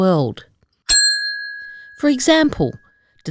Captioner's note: bell rings